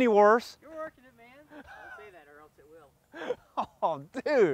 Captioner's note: background voices